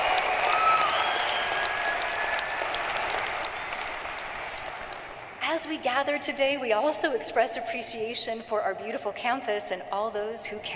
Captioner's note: applause